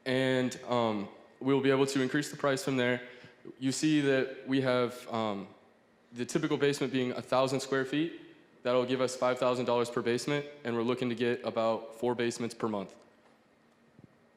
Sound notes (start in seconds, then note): none